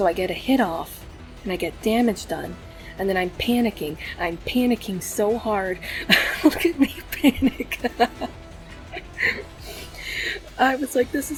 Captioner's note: laughs